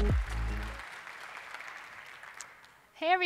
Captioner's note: audience applauds